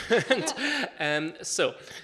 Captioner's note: laughs